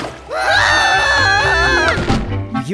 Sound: screaming

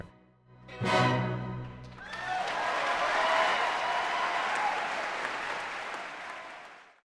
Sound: applause

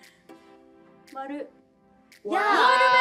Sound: speaking Korean

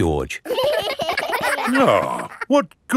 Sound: giggling

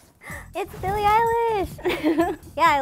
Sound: laughs

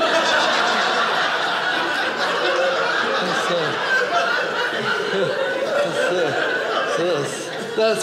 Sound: audience laughing

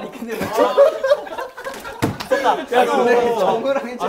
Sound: both laughed

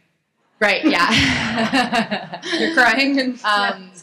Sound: laughter

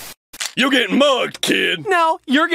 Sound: mug gun sound

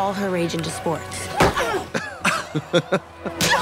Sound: Regina groans; blonde women tee-hee; Regina yelps

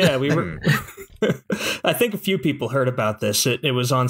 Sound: laughter

